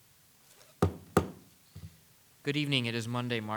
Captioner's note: gavel bangs